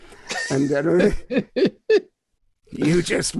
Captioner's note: laughing